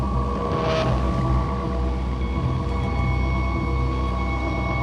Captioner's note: boat engine humming